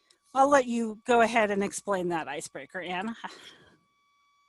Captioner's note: laughs